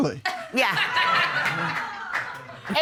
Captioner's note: audience laughing